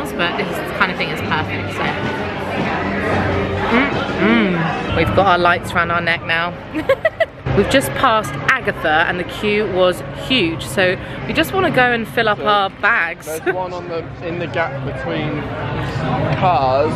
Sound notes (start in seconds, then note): 3.7 people chattering; 6.7 giggling